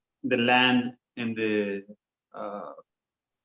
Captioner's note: speaking foreign language